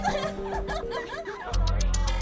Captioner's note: girl laughing